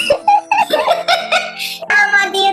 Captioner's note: laughs